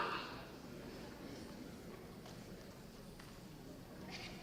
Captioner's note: audience chatting